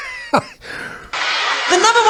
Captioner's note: laughing